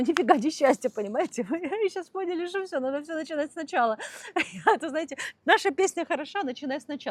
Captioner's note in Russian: смех